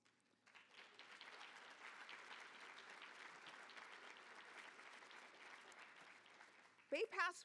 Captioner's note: applause